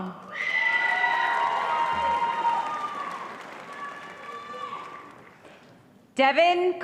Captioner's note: audience cheering and applause